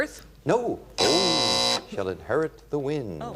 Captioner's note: buzz